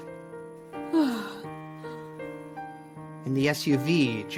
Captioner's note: Linda sighs